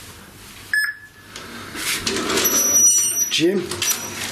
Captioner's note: machine beeps